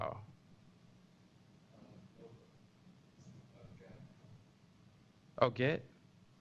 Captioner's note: pause